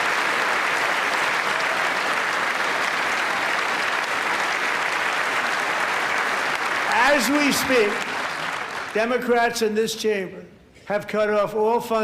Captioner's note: applause